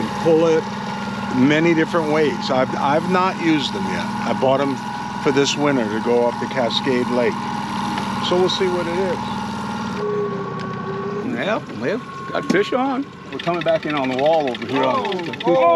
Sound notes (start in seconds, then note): 10.6 boat engine running